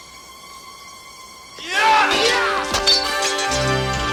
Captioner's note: both yelling